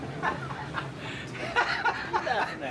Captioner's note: laughing